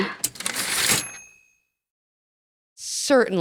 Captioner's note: typewriter ding